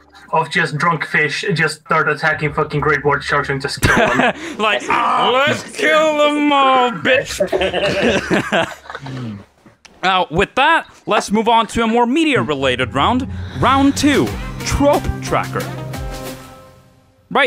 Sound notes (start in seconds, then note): 3.8 laughter; 5.2 slurred; 6.8 group laughter; 12.1 energetic jingle